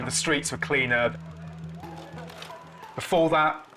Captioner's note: projector whirring